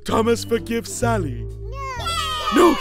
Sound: Cheering Villager children

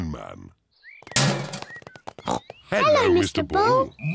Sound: bin clangs; snorts

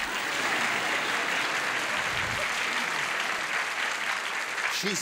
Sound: applause

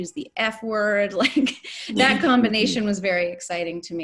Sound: chuckles

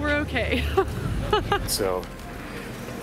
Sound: laughing

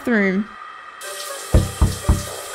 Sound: knock! Knock! Knock!

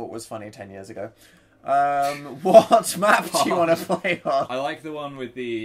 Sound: laughs

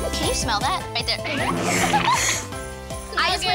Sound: laughter

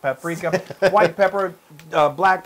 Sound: laugh

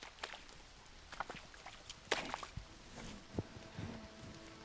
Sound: mud squelching; soft solemn music

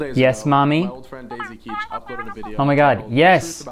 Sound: cartoon voice

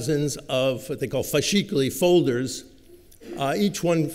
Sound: italian

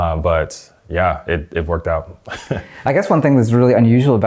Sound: laughing

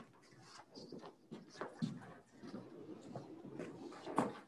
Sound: footsteps clanging

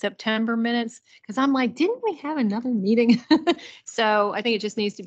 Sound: chuckles

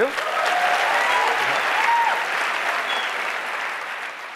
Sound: audience applauds

